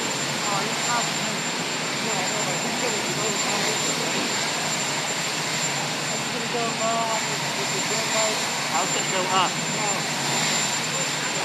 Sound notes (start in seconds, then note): none